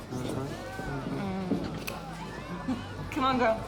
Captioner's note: chuckles